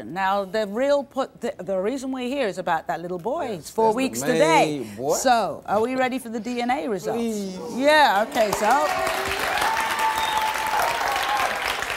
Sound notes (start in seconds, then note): 8.2 applause